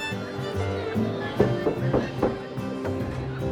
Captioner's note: knocking